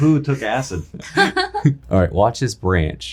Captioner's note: laughing